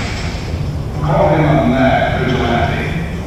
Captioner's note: gun shot, bangs